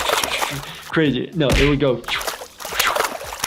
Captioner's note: water splashing; water splashes slower